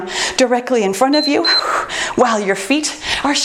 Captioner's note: timer beeps